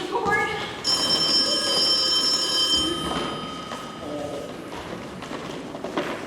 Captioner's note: phone rings